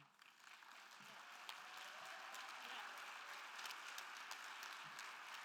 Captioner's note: attendees applauding and cheering